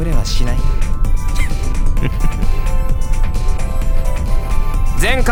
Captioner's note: chuckle